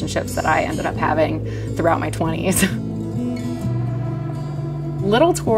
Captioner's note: laughing